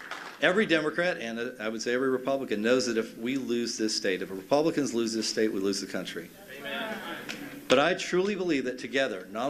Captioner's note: cheers and applause